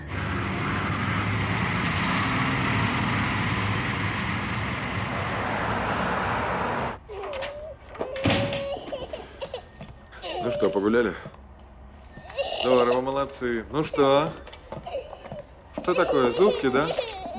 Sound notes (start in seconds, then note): 0.0 car sounds; 6.8 baby crying